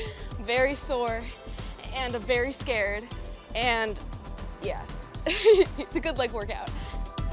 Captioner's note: laughing